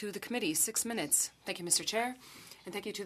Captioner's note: speaking French